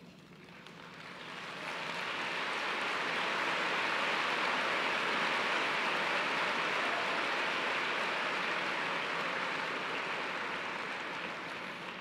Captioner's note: applause